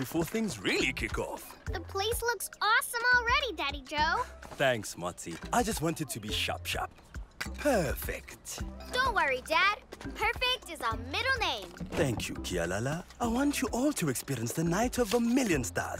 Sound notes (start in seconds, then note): none